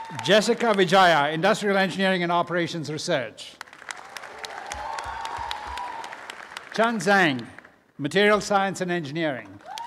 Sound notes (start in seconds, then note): 3.5 applause; 9.4 applause